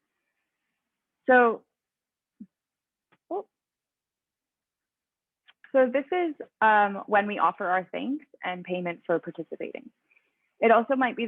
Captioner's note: pause